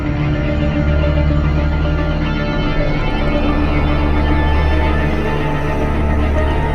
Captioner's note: scary roar heard from distance